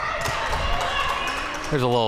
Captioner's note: crowd cheering